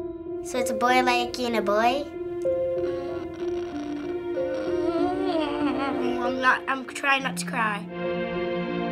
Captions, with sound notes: - So it's a boy liking a boy? - (groaning) I'm trying not to cry.